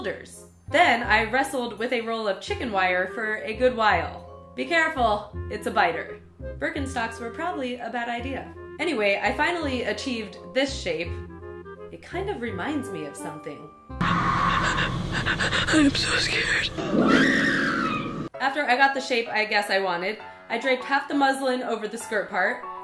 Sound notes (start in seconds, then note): 14.1 gasping, panting; 16.7 screaming